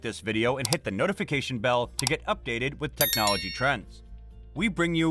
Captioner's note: with a bell sound